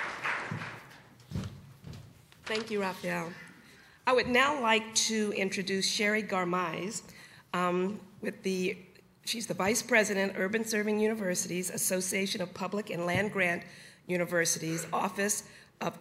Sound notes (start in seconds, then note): 0.0 applause